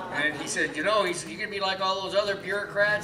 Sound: laughs

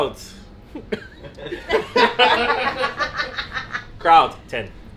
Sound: laughing

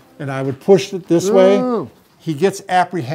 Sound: groans

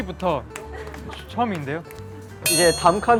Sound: claps

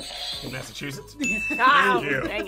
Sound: buzzer rings; bell rings

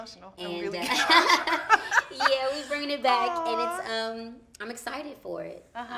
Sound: laughs

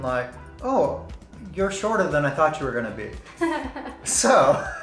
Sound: laughs

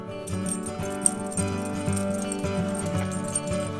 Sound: chain jingles

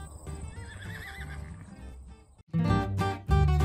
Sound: horse whinnying; upbeat music

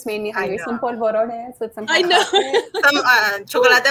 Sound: speaking foreign language

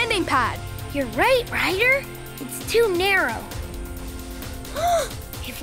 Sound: gasping

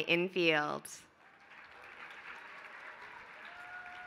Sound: applause

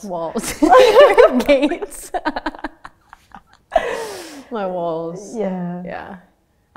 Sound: laughter

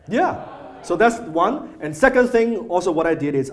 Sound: audience laughs

